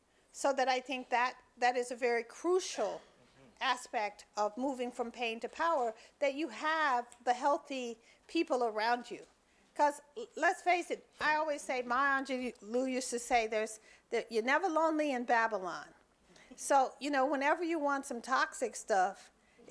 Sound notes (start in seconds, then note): none